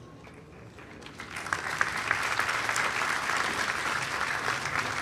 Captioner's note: audience applauding